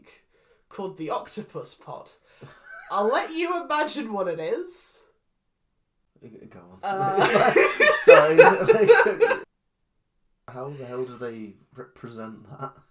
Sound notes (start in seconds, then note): 2.4 wheezing laugh; 7.2 cackles